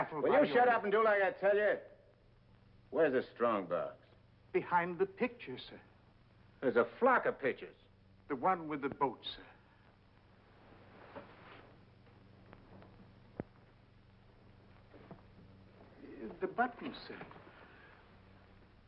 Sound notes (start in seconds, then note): none